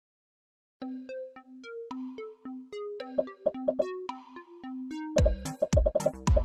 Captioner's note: upbeat music; popping